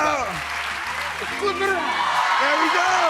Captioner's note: audience cheers